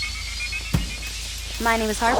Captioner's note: electricity surging